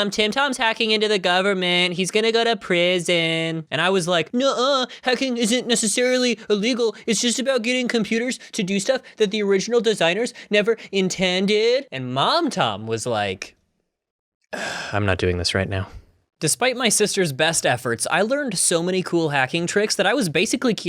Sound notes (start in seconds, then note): 14.5 sigh